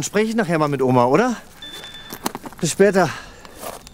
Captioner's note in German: Handy klingelt